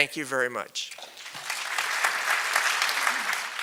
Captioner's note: applause